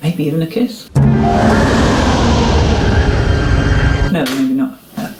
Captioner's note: howling wind